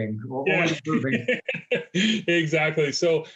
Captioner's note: laughs